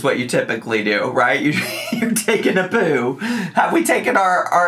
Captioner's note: laughs